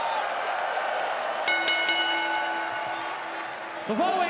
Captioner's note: audience cheering; bell ringing